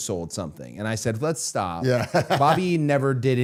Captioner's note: laughing